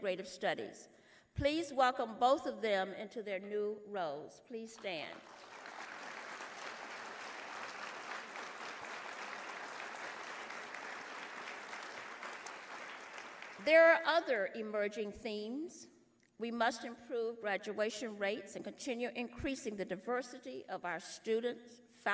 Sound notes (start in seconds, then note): 8.6 applause